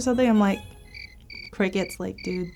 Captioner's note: crickets chirping